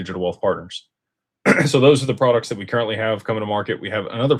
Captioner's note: clears throat